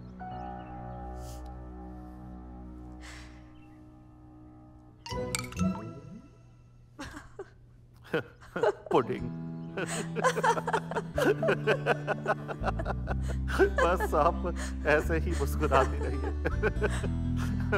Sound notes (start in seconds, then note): 3.0 Fatima sighs; 8.0 Both giggling